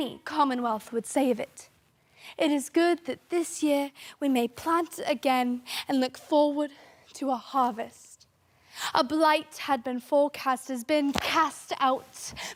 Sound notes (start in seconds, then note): 2.0 soft breathing